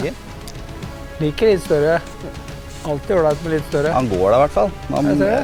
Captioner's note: giggle